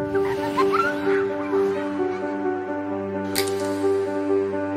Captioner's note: children laughing